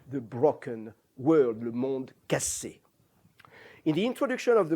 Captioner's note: non-english